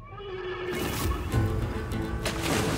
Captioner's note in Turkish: At kişneme sesi